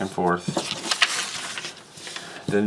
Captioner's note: rustling paper